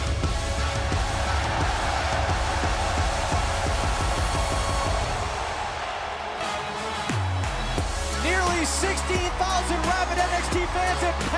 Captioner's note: crowd cheering